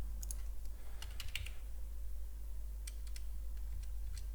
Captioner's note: typing on keyboard